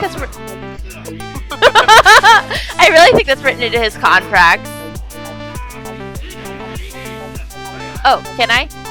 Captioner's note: laughs